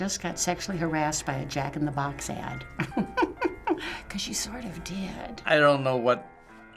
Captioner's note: chuckles